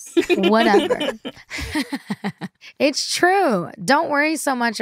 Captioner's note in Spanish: ríe